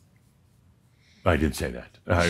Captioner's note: slight pause